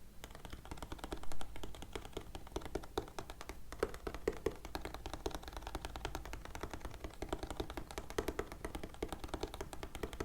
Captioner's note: keyboard tapping sounds